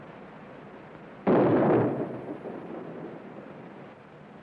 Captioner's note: gun firing